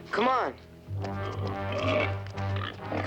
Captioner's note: grunting